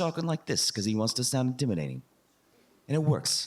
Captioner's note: talking with an Accent